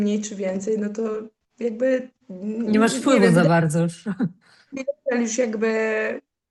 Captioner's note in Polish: śmiech